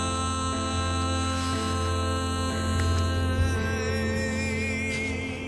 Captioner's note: Asher gasping